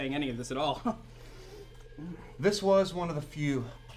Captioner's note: chuckles